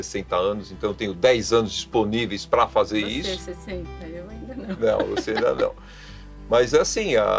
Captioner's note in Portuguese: Risos